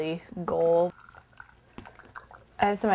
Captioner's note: sound of ink pouring